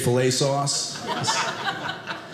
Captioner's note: audience laughing